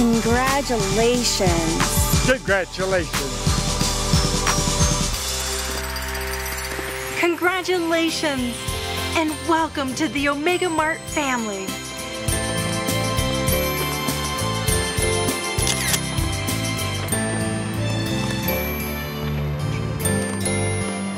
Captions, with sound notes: - Congratulations. - Congratulations. - Congratulations and welcome to the Omega Mart family. (upbeat music) (camera clicking) (upbeat music)